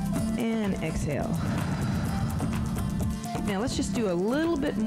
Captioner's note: breath hisses